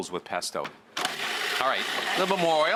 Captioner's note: blender whirring